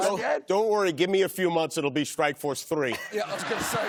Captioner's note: laughter